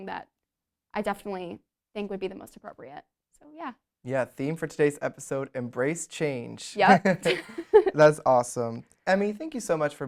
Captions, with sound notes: that I definitely think would be the most appropriate, so, yeah. - Yeah, theme for today's episode, embrace change. - Yep. (both laugh) - That's awesome. Emme, thank you so much